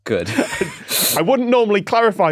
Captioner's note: both wheezing